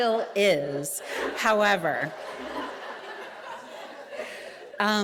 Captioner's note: audience laughing